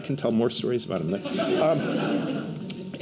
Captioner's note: laughter